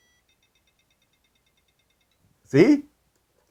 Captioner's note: powerbolt rapidly beeping